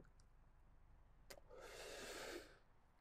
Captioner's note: inhales sharply; exhales